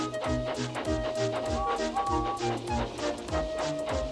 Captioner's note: toot toot